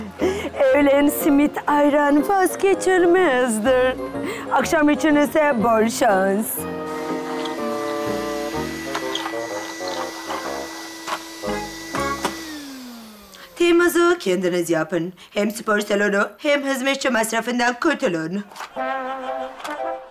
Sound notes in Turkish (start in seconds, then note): 6.8 Elektrik süpürgesi sesi; 18.4 Gülme efekti